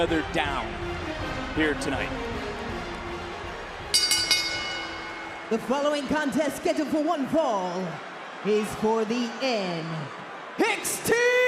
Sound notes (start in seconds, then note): 3.9 bell rings